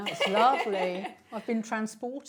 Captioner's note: laughs loudly